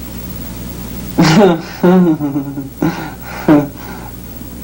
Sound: laughs

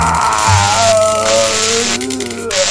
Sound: zappppp

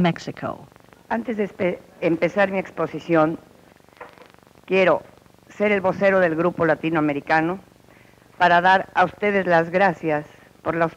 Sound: speaking Spanish

